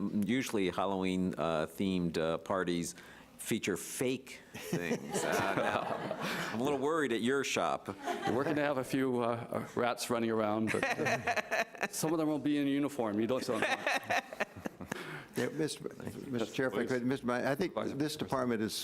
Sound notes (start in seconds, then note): 4.7 laughing; 10.7 laughing; 13.5 laughing